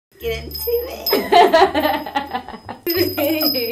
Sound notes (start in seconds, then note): 0.2 ringing chimes; 1.0 laughing